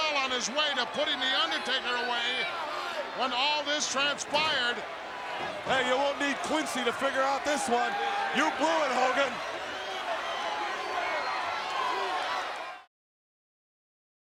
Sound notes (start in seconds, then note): 9.2 applause